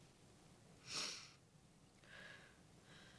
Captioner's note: sniffles